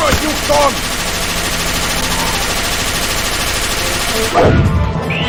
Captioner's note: the Robot continues to fire